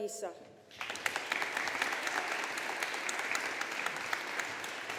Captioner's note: audience applauding